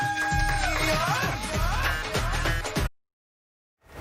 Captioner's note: cheering and Applause